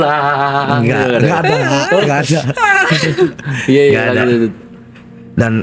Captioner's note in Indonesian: tertawa